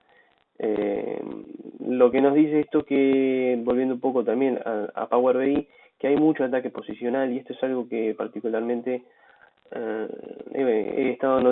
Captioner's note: Spanish